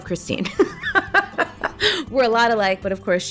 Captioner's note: laughs